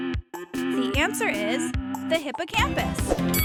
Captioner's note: bell ringing